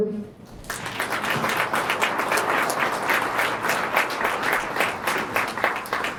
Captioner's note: applause